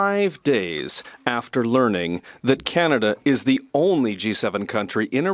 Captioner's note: speaking French